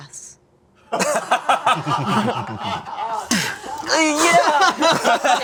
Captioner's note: group laughing